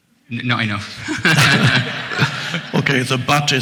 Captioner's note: audience chuckles